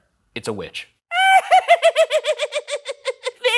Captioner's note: imitates witch cackling